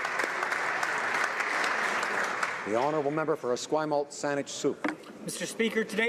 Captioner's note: applause